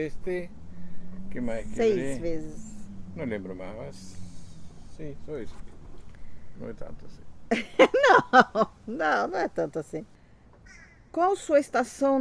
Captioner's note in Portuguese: risos